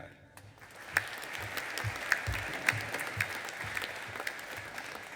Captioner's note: audience applauding